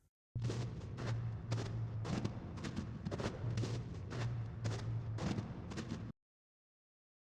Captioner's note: ominous footsteps